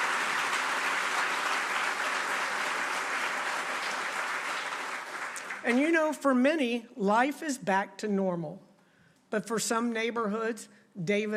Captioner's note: applause